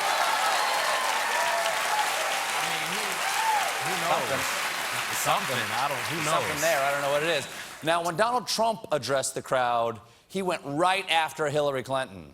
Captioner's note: cheers and applause